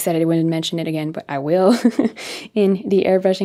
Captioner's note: chuckles